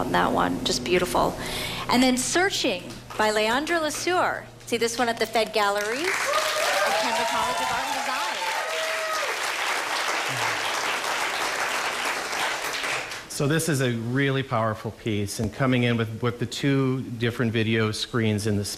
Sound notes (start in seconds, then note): 9.9 applause